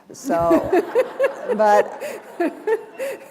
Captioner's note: laughter